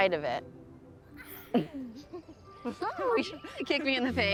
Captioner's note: laughter